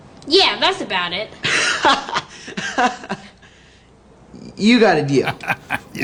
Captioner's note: bully laughs